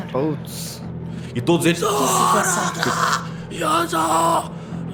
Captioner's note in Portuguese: grunhidos